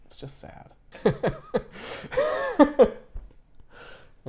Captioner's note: laughter